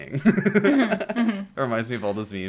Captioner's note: laughter